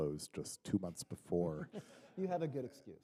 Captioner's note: chuckle